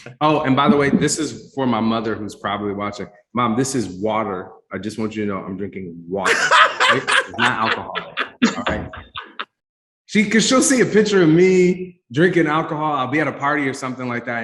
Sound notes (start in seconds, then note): 0.0 panelists laugh; 6.2 laughs